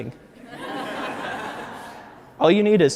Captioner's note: audience laughs